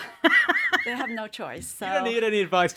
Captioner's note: everybody laughs